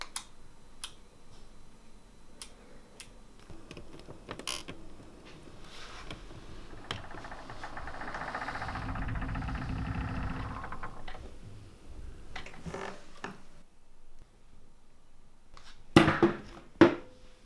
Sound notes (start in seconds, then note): 3.4 door creaking; 12.8 footstep on creaking floor